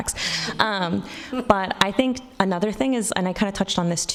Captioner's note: audience laughing